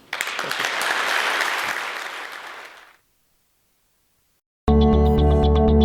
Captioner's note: applause; bright, ambient tonal music